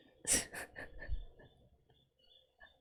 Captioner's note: laughs